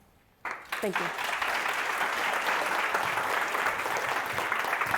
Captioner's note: audience applauds